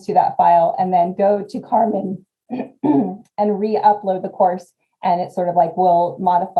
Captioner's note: cough